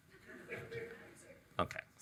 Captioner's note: audience chuckles